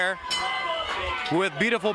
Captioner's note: bell rings